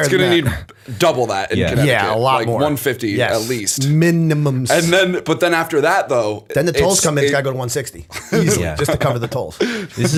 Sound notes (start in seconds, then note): 9.5 chuckle